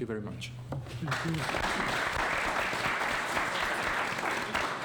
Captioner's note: applause